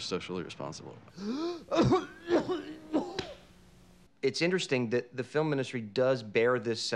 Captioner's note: coughing